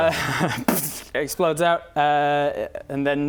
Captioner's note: pfft